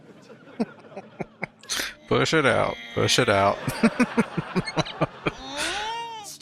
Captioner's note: laughing